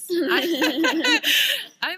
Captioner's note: laughter